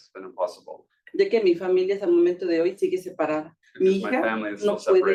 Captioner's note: speaking Spanish